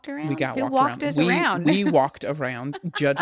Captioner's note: laughs